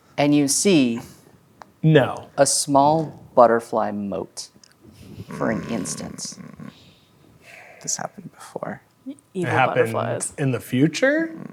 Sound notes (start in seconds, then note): 5.5 grumbling